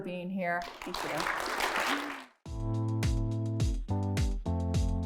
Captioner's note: applause